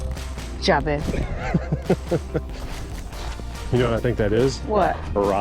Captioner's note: laughs